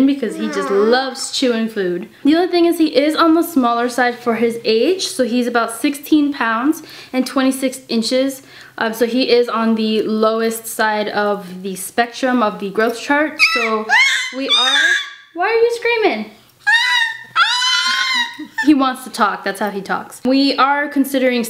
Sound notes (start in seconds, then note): 13.4 baby interupts